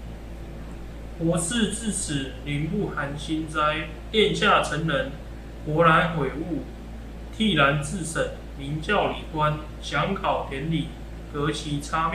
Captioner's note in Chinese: 朗讀